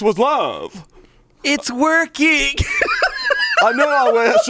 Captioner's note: laughs